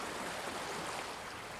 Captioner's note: rushing water